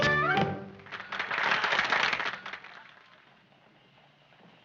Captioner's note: group applauds